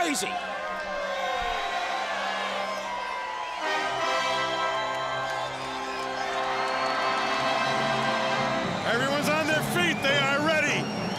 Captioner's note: crowd cheering